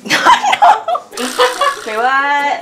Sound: laughter

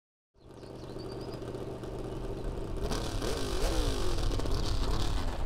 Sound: motor revving

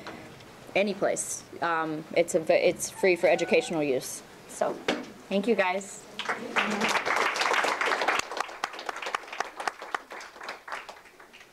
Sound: applause

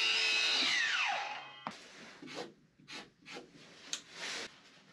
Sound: drill whirring

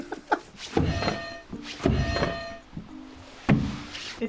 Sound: laughs; bell rings

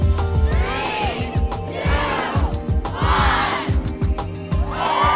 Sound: crowd counting down

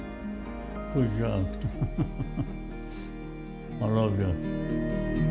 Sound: laughs

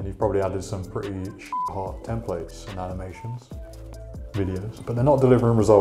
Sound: beep

